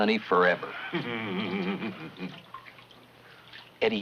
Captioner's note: Eddie chuckles